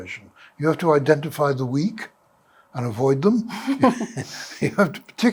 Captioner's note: laughter